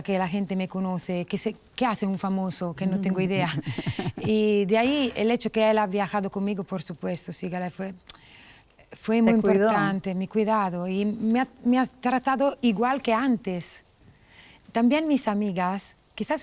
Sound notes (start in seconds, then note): 8.2 clicks tongue